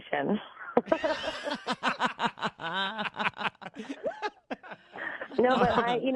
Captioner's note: laughs